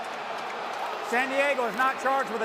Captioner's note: booing